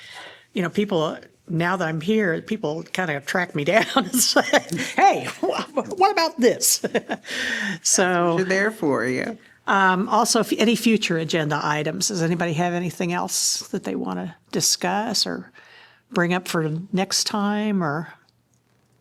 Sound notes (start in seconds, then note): 6.6 laughter